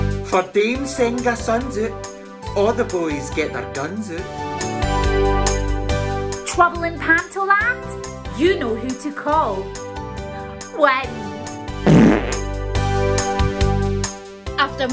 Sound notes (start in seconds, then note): 11.8 loud Fart